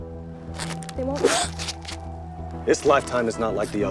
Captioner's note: girl gasps